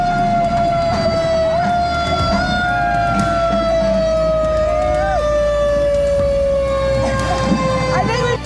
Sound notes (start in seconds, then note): 0.0 siren blaring